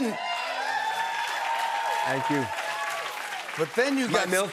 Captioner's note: cheers and applause